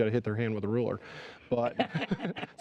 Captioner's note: laughter